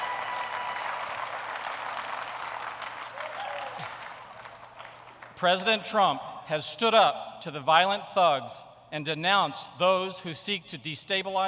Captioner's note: applause